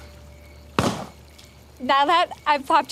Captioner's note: pop